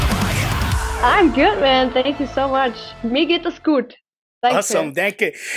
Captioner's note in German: Auf Deutsch